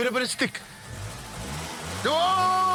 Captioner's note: car revs